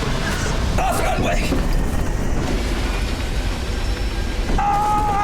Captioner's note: airplane engine whirring; pilot shouting